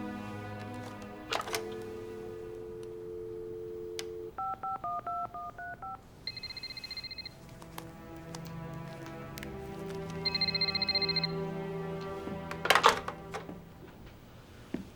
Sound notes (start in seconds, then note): 2.0 dial tone ringing; 4.7 phone beeping; 6.6 phone ringing